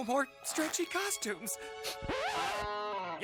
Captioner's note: sniffles